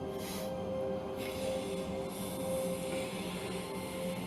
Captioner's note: air blowing